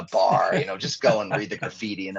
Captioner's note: laughing